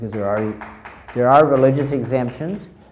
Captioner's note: crowd applauds